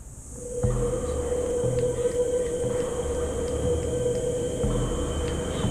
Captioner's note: bugs chirping; light dramatic music; heavy breathing